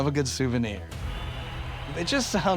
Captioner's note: crowd clamoring